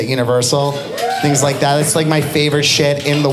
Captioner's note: audience applauding